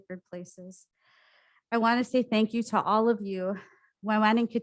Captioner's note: foreign language